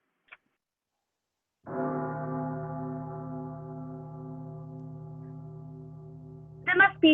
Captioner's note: bell tolling in distance